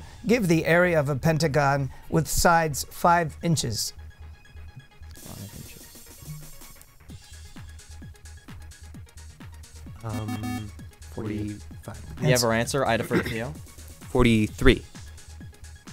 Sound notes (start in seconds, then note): 3.9 wispering